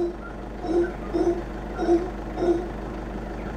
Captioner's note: roars; howler monkey roars